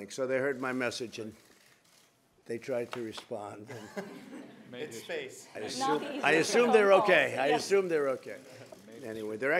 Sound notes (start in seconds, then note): 3.6 laughter; 7.4 laughs